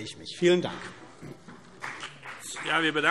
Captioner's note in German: Beifall CDU und BÜNDNIS 90/DIE GRÜNEN